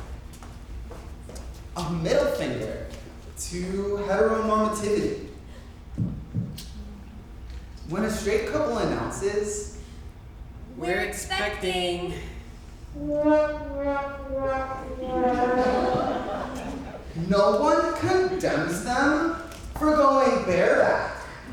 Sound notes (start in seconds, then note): 12.9 dramatic horn blows; 15.0 audience laughs